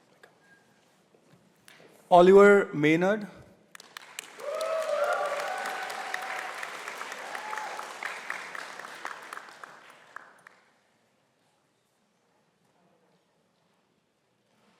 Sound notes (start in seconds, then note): 3.7 applause